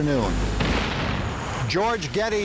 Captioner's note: cannons exploding